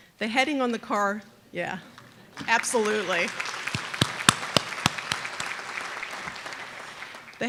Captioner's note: aplause